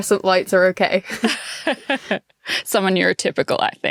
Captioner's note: laughing